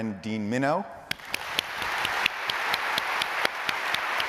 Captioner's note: applause